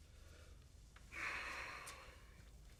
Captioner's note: exhales